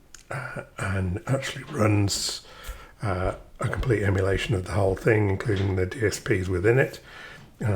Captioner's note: clears throat